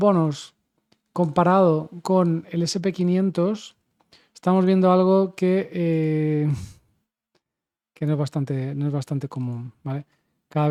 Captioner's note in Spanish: resoplido